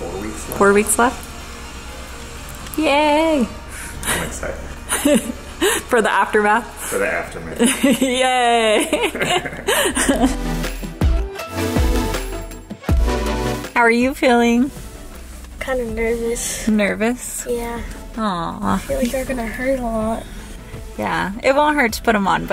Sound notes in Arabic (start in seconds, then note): 4.8 الأم تضحك; 9.7 موسيقى مبهجة